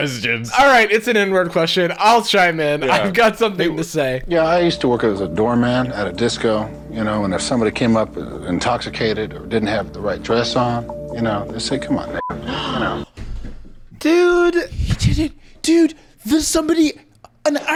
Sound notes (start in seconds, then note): 12.0 beep; 12.4 gasping